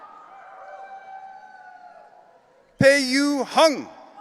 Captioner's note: audience cheering